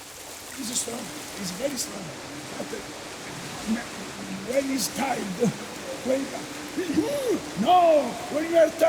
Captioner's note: speaking in partial English